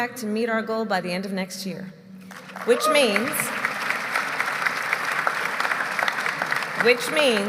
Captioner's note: applause